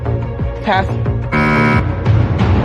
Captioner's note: buzzer sounds